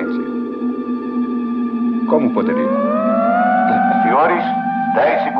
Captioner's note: Cummings On P.A